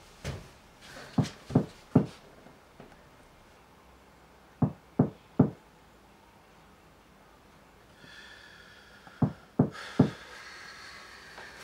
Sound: knocking

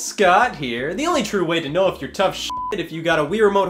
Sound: beep

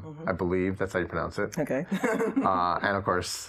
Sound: laughs

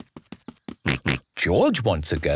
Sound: snorts

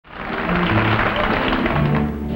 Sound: audience applauding

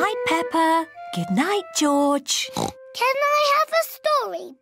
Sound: oinks

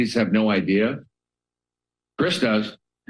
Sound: pause

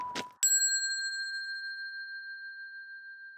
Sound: whistling sheepishly; bell dinging

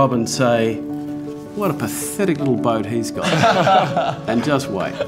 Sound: laughing

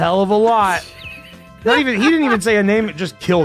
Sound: laughs

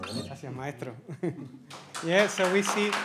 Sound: speaks in Spanish; audience applauds

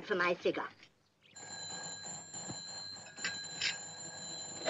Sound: telephone rings

